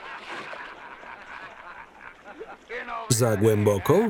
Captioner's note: laughing